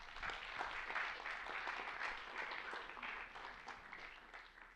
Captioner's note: applause